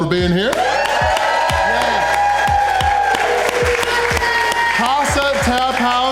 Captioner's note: crowd clapping and cheering